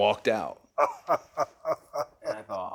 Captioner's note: Austin chuckles